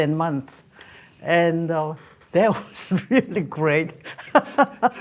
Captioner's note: laughing